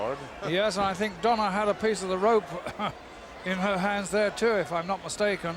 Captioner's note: cough